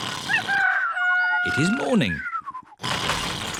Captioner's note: cockerel crows